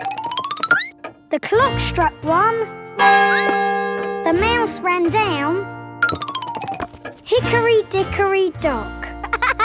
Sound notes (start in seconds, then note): 3.2 clock chimes; 3.2 squeaks